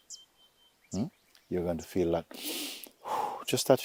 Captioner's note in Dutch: ademt uit